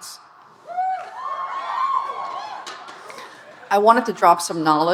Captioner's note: audience cheering